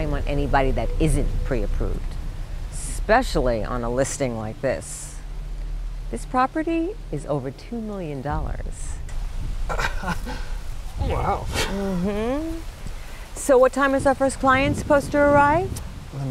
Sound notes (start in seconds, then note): 8.5 dramatic bass; 9.7 laughs